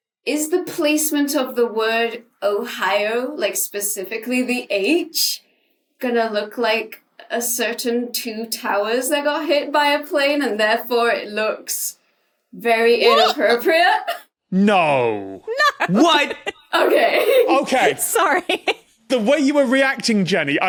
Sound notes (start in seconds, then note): 15.4 giggles; 18.5 laughs